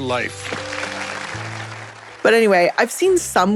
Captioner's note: audience applauding